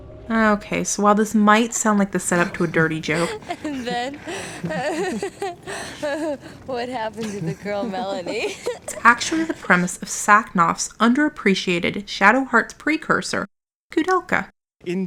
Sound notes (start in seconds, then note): 5.3 laughing; 8.6 giggle